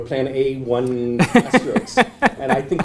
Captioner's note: laugh